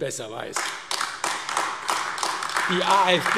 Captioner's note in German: Beifall AfD